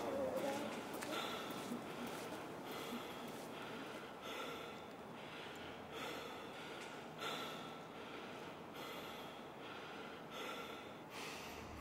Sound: happy voices in the distance; hard breath

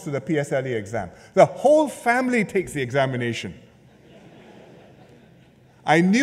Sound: laughter

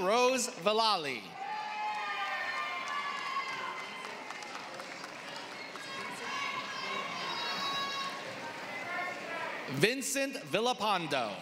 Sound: applause

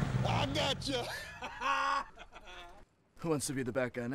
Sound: laughs

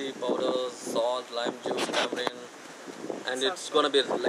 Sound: wind blows

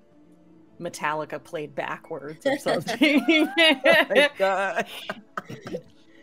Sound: laughs

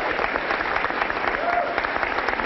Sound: applause

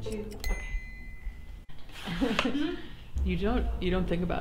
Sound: timer dings

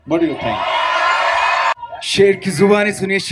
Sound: cheering

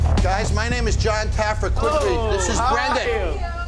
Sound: staff chattering

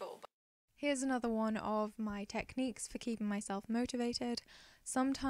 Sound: voiceover

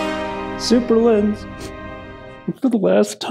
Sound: dramatic horns; sniffs

